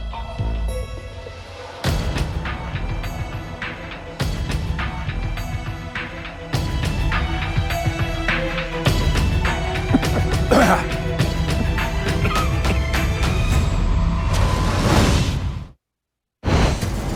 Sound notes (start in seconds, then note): 9.8 clears throat; 9.8 coughs